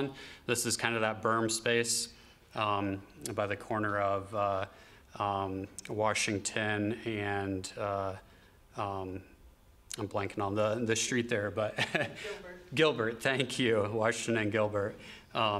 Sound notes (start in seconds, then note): 11.7 laughter